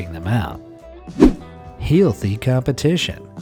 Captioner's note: image whooshing